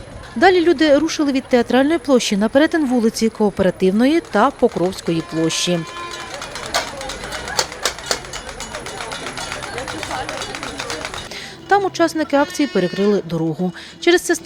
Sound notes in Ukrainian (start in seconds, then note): 6.2 звуки свистків, брязкит металевого посуду